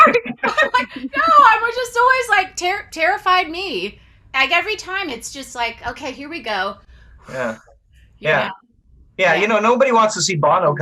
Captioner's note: deep breaths